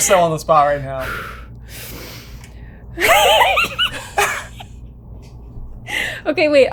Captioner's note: deep breaths; giggles